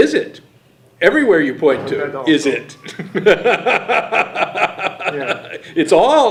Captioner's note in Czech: směje se